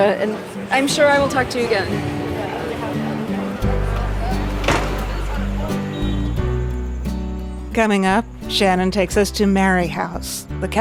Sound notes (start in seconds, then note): 2.4 city traffic bustling; 2.4 gentle music